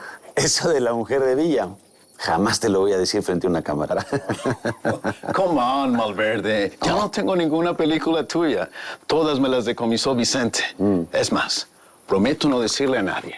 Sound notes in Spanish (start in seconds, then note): 3.9 Risas